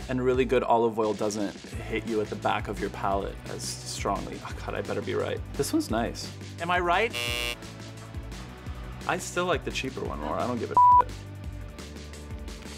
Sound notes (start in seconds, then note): 7.1 buzzing